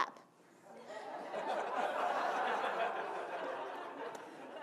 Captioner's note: audience laughing; clapping in slow motion